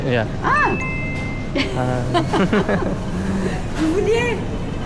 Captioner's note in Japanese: 笑い